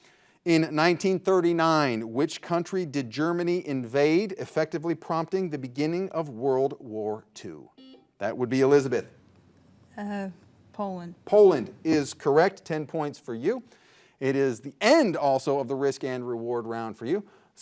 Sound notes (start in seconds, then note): 7.8 buzzer buzzing